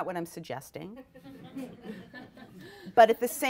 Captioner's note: audience laughs